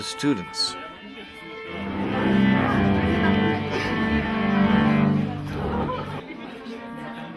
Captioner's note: chaotic orchestra instrument tuning; people chattering faintly